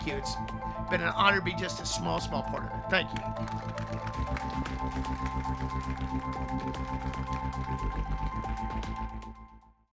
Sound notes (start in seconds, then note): 3.0 soft applause; 4.9 ambient music